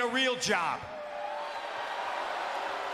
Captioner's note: applause